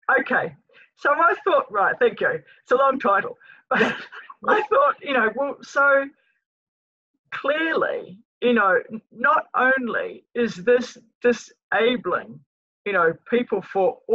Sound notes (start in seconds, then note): 3.8 laughs